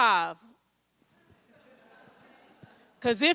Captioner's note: audience chuckles